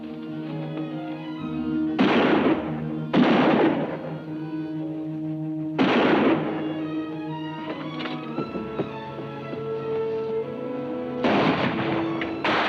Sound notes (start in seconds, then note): 1.5 exciting music; 2.1 guns bang